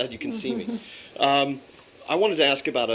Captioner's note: laughter